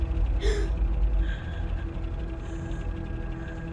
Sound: Hayley gasping

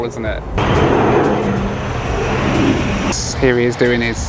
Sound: plane engine roars

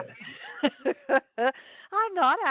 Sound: laughs

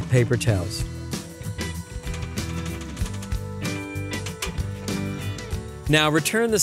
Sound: rack shaking

